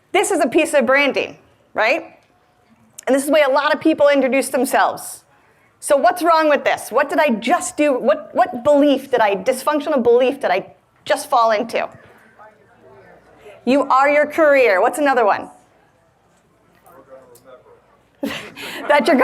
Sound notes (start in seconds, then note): 11.9 audience murmuring